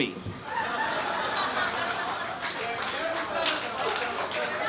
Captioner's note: laughter